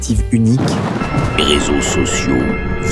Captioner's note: thunder noise